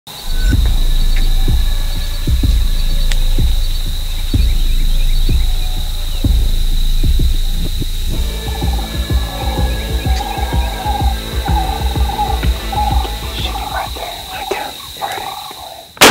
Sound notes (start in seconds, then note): 13.1 whispering